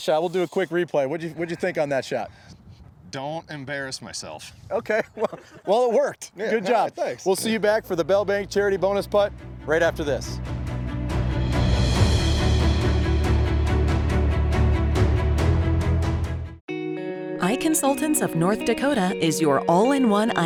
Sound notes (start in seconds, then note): 4.9 chuckles; 9.8 inspiring music